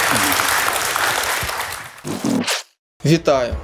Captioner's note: the audience cheers